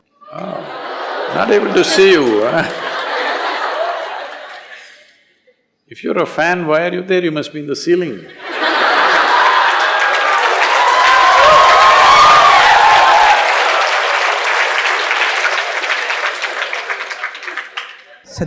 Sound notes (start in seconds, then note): 4.4 laughter; 12.8 laughter/Applause/Cheers